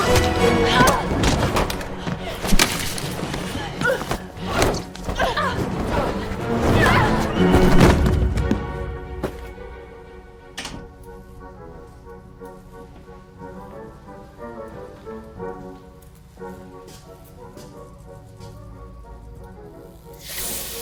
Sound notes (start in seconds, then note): 3.2 both grunting; 3.2 grunts; 8.9 upbeat music; 17.0 electric buzzes